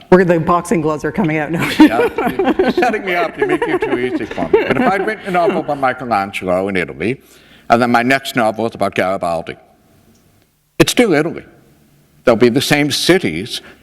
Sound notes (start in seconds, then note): 1.6 laughter